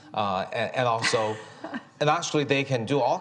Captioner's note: chuckles